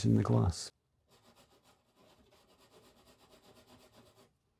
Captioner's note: pencil scratching